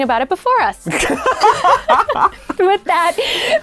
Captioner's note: laughing